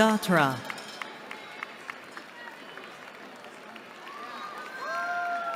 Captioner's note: applause